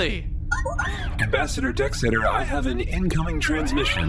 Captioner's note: beeps and boops of an incoming transmission